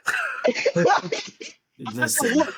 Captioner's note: laughing